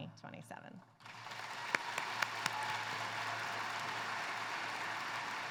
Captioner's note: applause